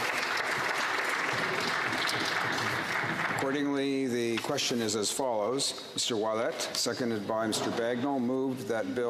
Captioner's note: some applause